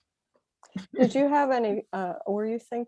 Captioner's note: laughing